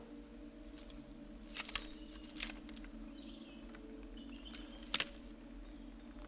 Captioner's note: ominous music; sticks pattering